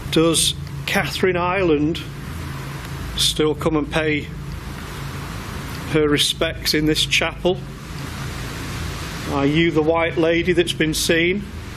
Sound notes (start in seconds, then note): none